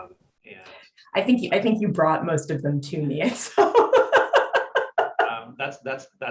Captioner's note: laughs